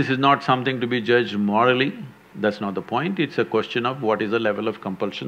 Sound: none

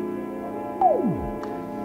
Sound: blip

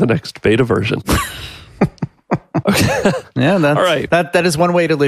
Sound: laughs

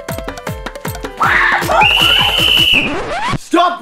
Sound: whistle Blows

